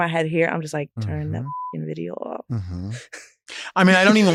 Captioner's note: beep